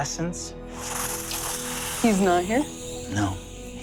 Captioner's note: imitaetes air whooshing